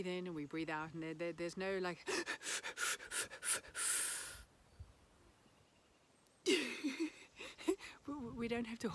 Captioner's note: inhales multiple times and holds breath